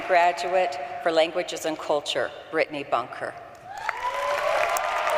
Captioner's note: applause